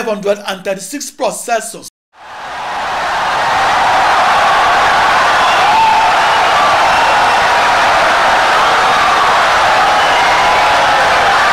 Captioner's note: wild applause and cheering for 17 seconds